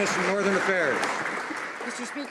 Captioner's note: applause